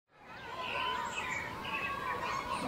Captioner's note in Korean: 새소리